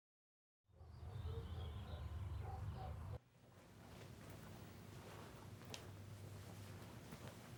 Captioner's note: dog barks in the distance; birds chirping